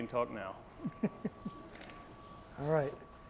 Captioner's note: laughs